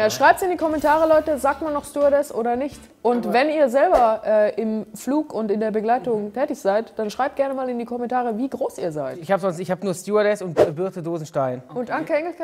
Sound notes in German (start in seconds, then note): none